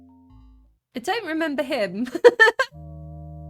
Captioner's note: laughing